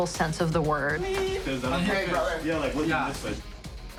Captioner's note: indistinct chatter